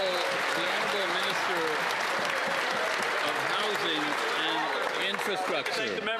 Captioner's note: some Applause